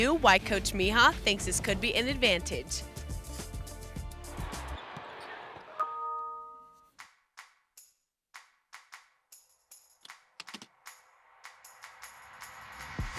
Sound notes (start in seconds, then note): 5.7 laptop chiming; 9.3 soft upbeat music begins